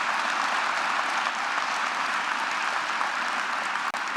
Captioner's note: applause